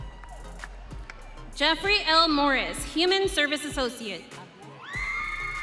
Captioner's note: audience cheering